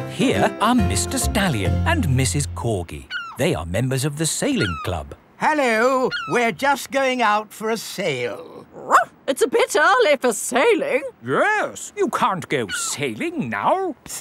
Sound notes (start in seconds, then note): 8.9 barks